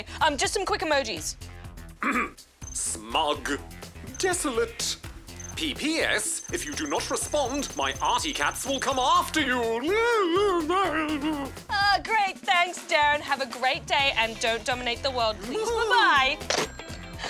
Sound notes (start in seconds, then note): 2.0 clears throat; 9.8 whimpers